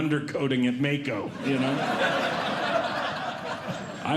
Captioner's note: audience Laughing